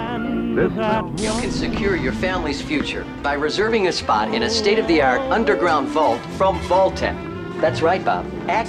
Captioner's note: television